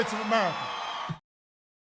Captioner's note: applause